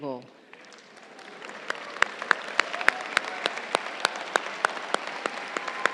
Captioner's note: crowd cheering and applauding